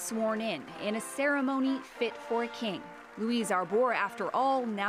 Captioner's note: applause